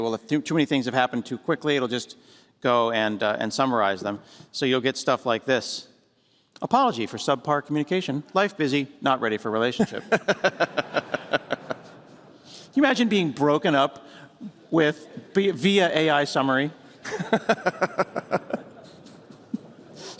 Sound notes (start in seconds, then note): 9.8 laughter; 17.0 laughter